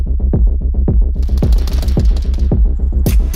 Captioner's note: tense upbeat music; guns firing; tense upbeat music